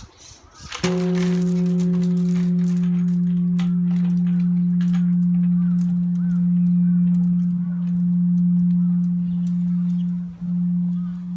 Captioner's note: bell ringing